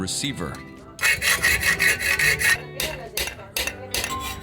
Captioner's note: clammering